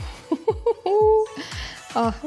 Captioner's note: laughs